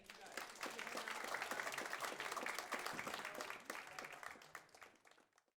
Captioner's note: audience applauds